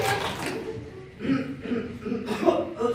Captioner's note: Seth and Della cheer; clears throat; chokes